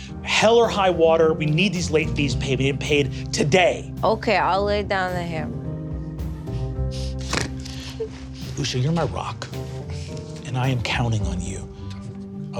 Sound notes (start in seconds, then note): 6.9 snorts